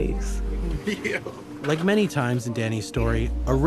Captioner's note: laughing